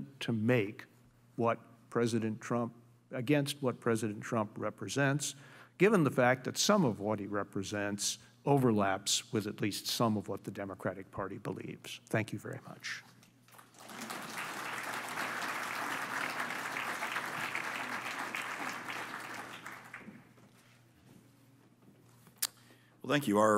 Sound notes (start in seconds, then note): 13.4 applause